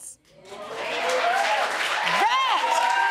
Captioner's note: audience cheering